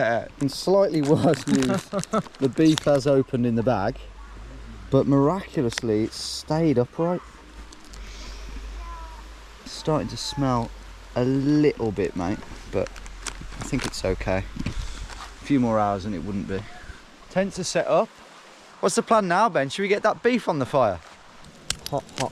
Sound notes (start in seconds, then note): 8.0 sniffs